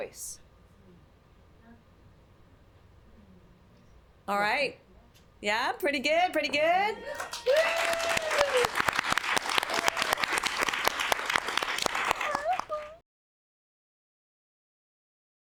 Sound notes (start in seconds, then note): 12.4 applause